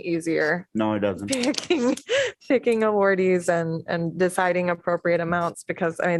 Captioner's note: laughter